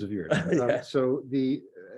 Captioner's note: laughs